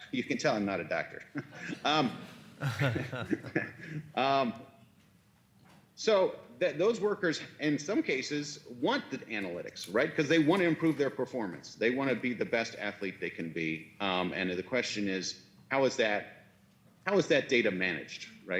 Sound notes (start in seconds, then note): 1.3 laughs; 1.3 speaker laughs